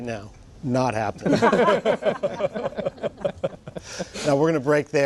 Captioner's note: laughter